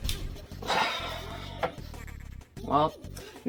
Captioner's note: another sigh